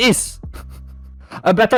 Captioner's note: laughter